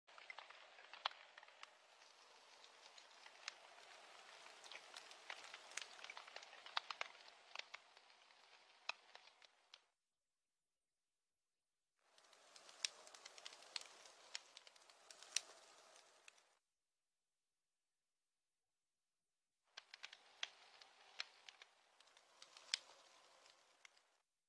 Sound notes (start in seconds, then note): 0.1 sounds of fire crackling; 12.1 sounds of fire crackling; 19.7 sounds of fire crackling